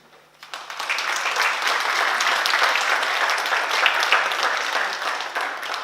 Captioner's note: oklaski